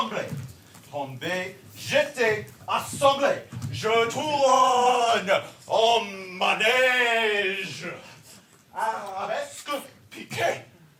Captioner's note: dancer speaks in foreign language